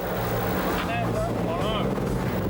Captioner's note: boat droning; droning drowns out speaker; boat droning; intense music